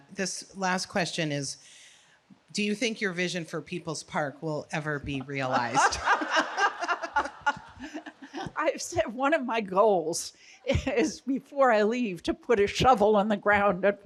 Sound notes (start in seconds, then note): 5.2 laughing together